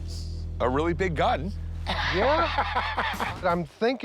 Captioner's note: laughs